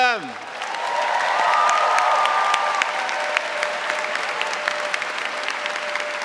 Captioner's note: audience cheering and applauding